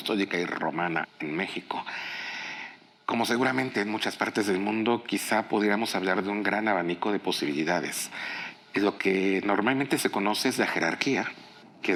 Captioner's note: speaking in Spanish